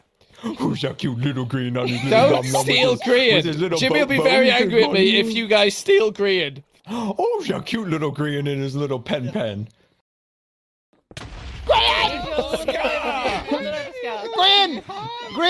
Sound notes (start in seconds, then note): 0.4 baby voice; 6.3 laughing; 6.8 gasp; 6.8 baby voice. again; 11.0 explosion; 15.0 Joel and Scar screaming